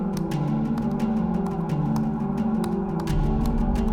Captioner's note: keyboard clicking